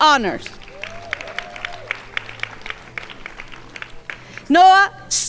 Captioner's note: crowd applauding